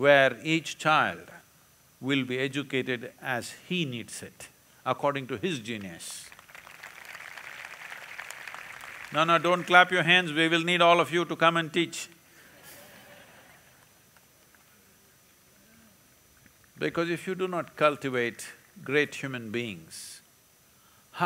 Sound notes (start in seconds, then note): 6.1 applause; 12.5 laughter